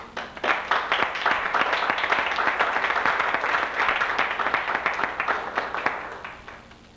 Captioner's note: applause